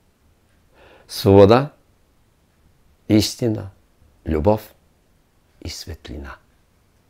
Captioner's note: in Bulgarian